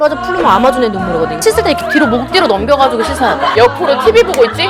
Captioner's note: swoosh